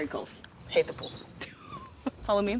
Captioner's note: chuckles